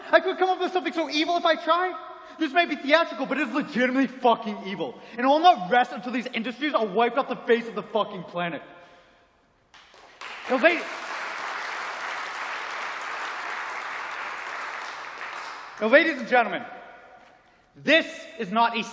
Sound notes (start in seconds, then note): 12.4 applause